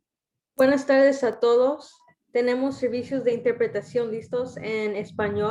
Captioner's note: speaking in Spanish